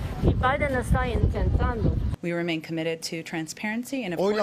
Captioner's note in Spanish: HABLAN EN INGLéS